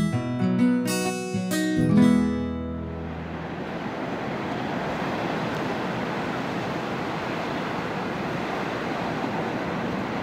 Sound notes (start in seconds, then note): 2.4 music ends, sound of ocean and waves returns